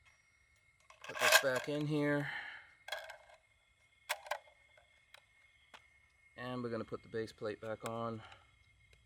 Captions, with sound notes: Put this back in here. (scraping) (clicking) And we're gonna put the base plate back on.